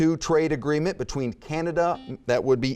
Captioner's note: buzzer beeping